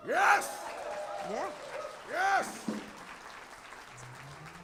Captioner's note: applause